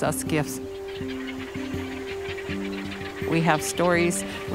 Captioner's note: pelicans squawking